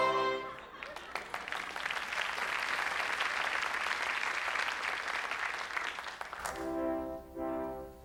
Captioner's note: applause